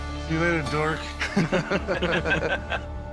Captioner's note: laughter